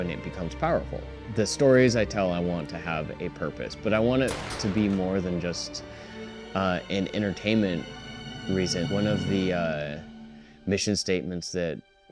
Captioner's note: gunshots